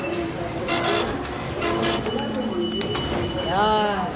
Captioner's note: digital beeping